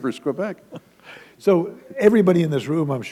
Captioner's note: chuckle